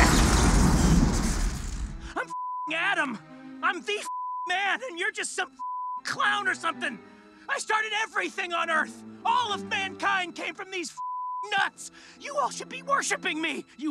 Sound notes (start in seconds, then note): 0.0 electricity crackles; 2.3 beep; 5.6 beep; 11.0 beep